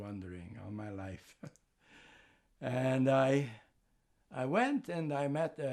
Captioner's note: laughing